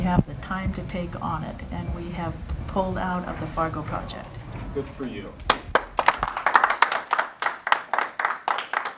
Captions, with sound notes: have the time to take on it, and we have pulled out of the Fargo project. Good for you. [applause]